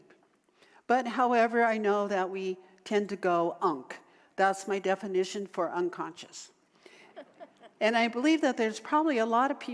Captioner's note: audience laughter